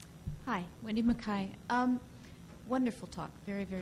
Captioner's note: voiceover